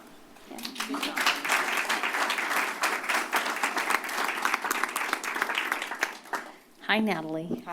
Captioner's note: applause